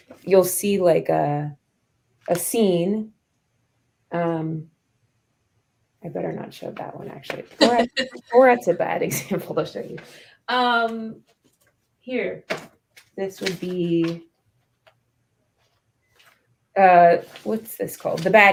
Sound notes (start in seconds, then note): 7.6 laughter